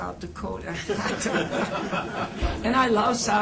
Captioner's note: laughter